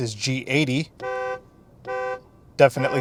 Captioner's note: car honk